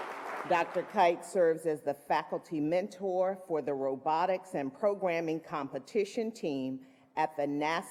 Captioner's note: applause